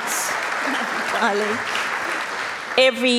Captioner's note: applause